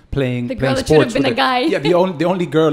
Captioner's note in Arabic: تضحك